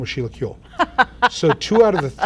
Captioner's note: laughing